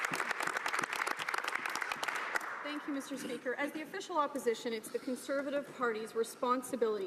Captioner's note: applause